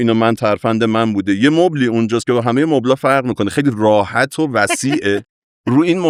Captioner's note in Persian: خنده